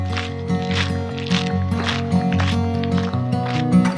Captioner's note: footsteps receding